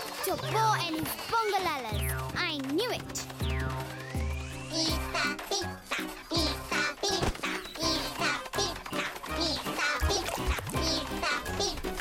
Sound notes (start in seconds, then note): 4.5 Bongolalas chant